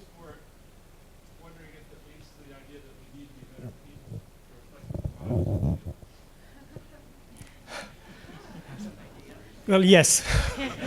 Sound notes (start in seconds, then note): 4.6 speaking off mic